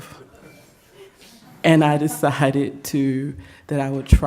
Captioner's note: laughter